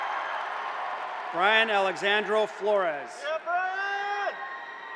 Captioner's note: cheers and applause